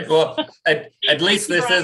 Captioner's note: chuckles